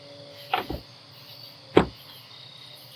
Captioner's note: door jambs, won't click into place